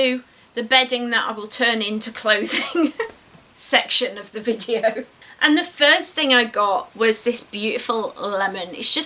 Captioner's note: giggles